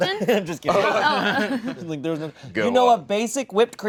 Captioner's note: nervous laughter